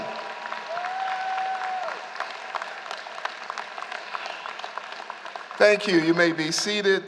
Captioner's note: applause